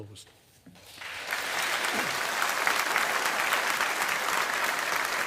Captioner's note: audience applauding